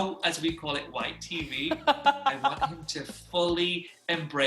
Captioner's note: laughs